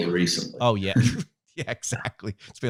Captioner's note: laughing